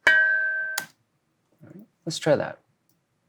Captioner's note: metal pole clicks